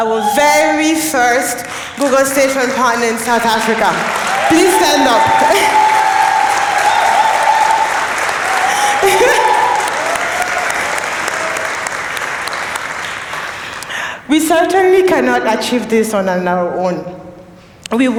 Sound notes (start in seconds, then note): 5.7 applause